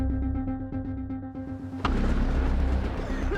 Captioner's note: thunder booming; coughing